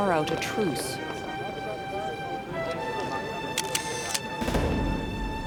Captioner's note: picture being taken